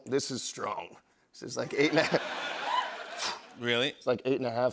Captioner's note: laughter